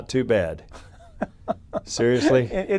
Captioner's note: laughs